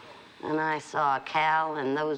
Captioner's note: none